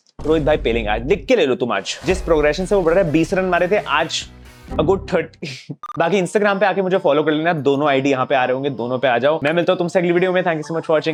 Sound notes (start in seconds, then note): 5.4 laughing